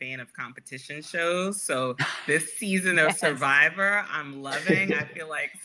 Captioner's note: laughter